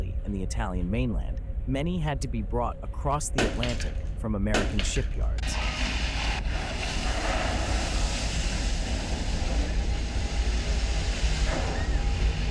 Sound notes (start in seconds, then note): 5.4 metal scraping; 8.0 water splashing